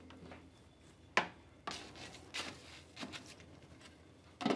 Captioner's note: soft rattling and rustling